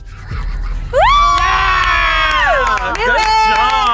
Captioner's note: group cheering